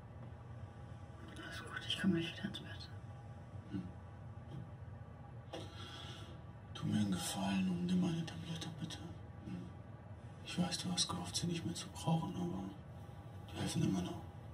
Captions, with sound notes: (whispering) All good. I'll be right back in bed. Please do me a favor. Take a pill. Mmh? I know you hoped that you won't need them anymore .. .. but they can still help you.